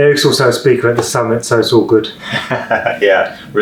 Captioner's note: laughing